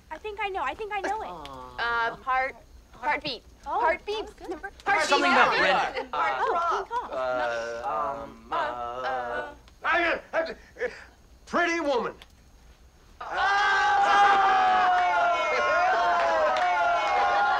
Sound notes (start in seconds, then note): 6.8 multiple people stammering; 10.2 excited stammer; 13.2 all cheering